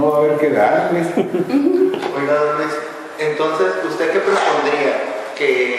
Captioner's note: laughter